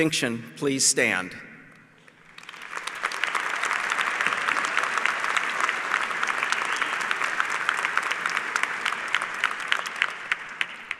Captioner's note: applause